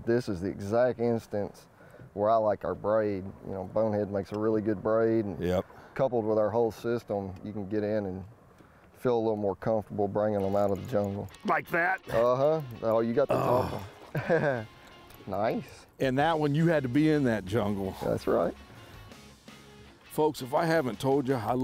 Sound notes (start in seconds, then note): 13.2 grunts; 15.3 laughs